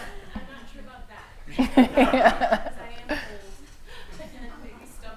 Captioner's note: laughter